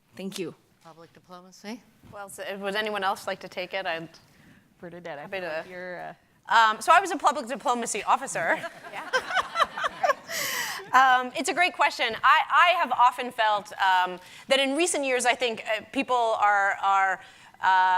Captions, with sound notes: Thank you. - Public diplomacy. - Well, has anyone else like to take it and... - Further that...you're a... - I'm happy to a... So I was a Public Diplomacy Officer (laughing) (audience and panel laughing) It's a great question, I have often felt that in recent years I think people are